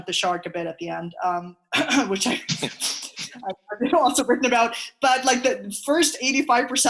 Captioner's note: clears throat